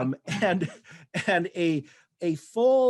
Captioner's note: laughter